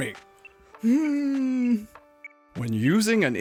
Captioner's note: hums